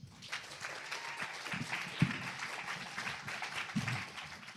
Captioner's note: applause